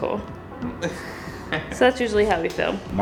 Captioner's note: laughs